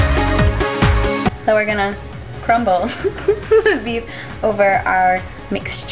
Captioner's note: giggle